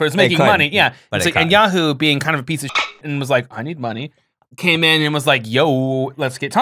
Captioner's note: dolphin sound